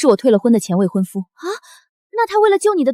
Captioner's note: gasp